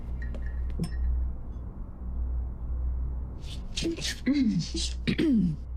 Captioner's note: low humming